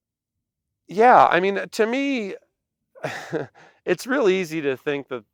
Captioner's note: chuckles